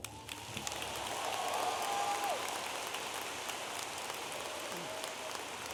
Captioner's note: audience applauding and cheering